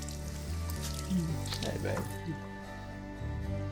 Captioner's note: water running; kisses